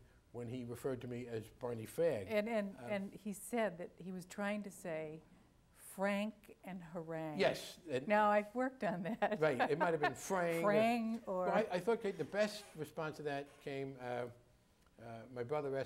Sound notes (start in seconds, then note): 9.2 laughs